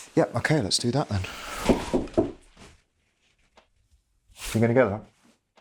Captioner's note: knocking on door